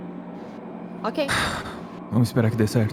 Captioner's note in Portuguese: Suspiro